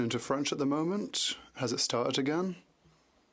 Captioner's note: speaking French